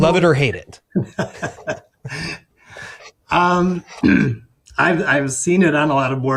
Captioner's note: chuckles; clears throat